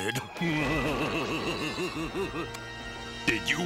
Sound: evil laughter

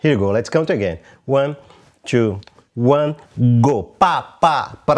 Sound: vocalizes rhythm

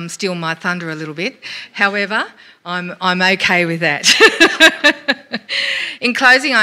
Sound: laughs

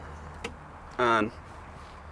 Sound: ignition switch clicks

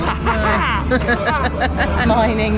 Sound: both laugh

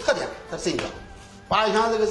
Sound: quaking foot

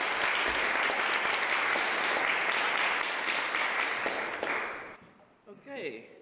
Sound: applause

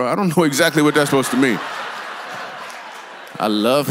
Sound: congregation laughs

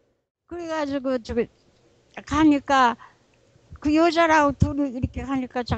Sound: speaking in foreign language

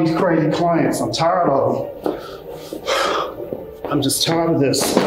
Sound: sighs

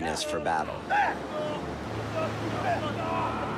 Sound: battle cries

